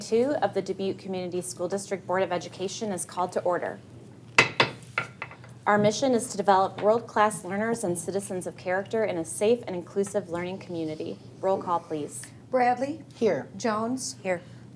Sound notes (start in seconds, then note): 4.4 gavel banging